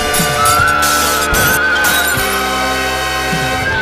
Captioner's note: Pramisa Screams in Fear as she watches the Windows Crack during the battle